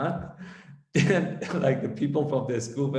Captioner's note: laughs softly